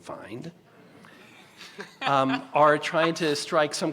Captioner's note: laughter